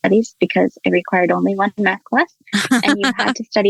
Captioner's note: laughs